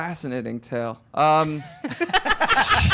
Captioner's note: laughing